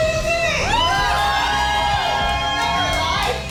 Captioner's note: cheering